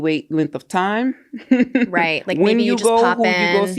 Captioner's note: laughs